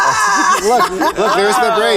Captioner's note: laughs